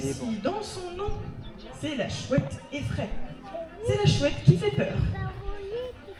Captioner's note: in french